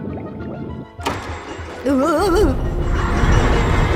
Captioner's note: stammers; children laughing